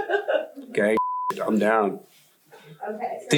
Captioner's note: beep